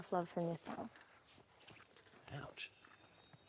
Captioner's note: birds chirping